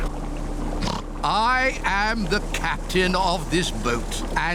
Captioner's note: oinks